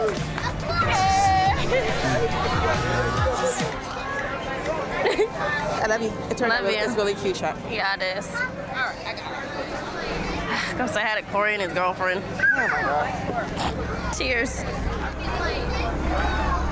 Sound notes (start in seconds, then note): 5.0 giggles; 10.8 sighs; 14.6 laughs